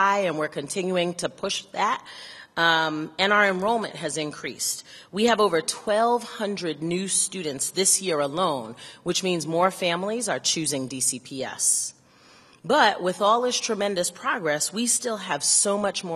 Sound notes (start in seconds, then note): none